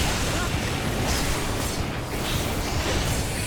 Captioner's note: explosions